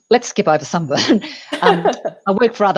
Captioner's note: chuckles